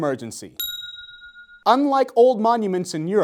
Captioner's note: bell ringing